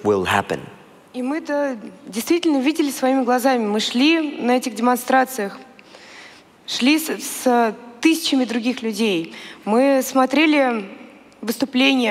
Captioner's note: foreign Language